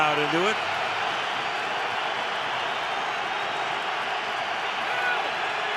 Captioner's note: crowd cheering